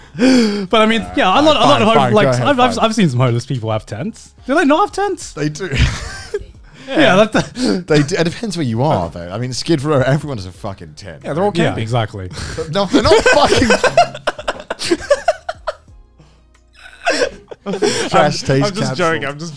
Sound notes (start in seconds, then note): 5.7 laughing; 14.2 all laughing